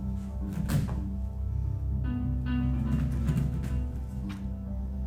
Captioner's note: footsteps thumping